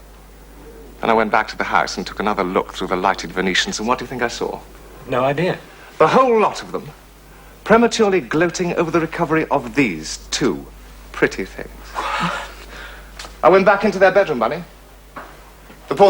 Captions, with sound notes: l went to the house and took another look through the Venetians. - And what do you think l saw? - l've no idea. The whole lot of them prematurely gloating over the recovery of these two pretty things. (Gasps) l went back into their bedroom, Bunny.